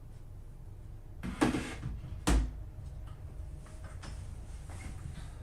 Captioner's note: laptop clunks